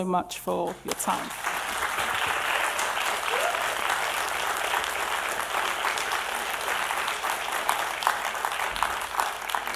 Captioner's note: audience applause